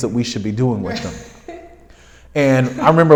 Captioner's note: laughs